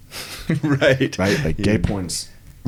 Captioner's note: laughing